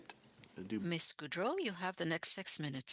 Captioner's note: speaking French